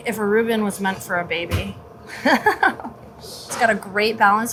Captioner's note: laughs